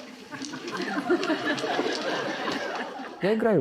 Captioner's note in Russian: звучит смех